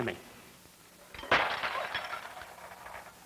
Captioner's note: coffee dishes clatter on floor